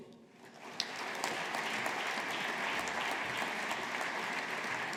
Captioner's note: audience applauding